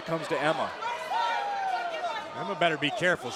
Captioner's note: crowd cheering